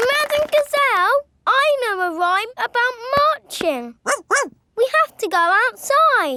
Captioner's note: laughing and clapping; barks